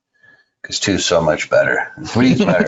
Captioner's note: laughing